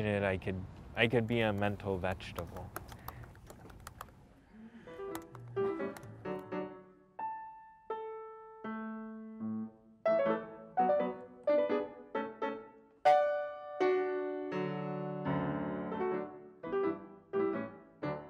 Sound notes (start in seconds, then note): 2.6 keys clack; 5.1 playful piano music